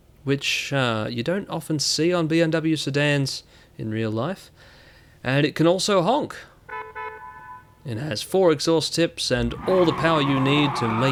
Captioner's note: honk, honk